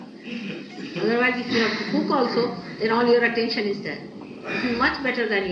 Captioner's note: laughter